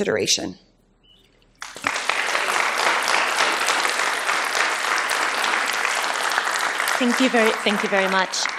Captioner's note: applause